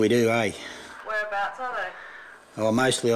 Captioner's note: woman on telephone